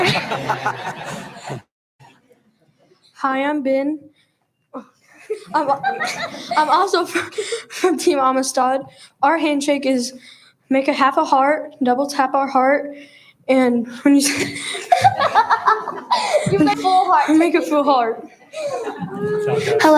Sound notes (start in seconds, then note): 0.0 laughs; 0.0 audience laughs; 5.0 students giggle; 14.3 giggles; 14.3 laughs